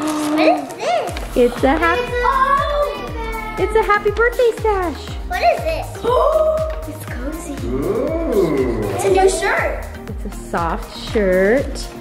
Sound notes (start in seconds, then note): 7.6 gasps